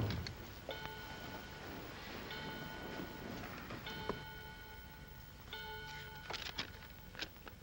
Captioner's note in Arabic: دقات الساعة; حفيف الورق